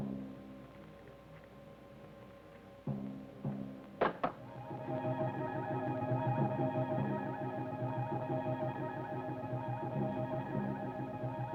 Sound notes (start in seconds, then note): 4.0 rock clacks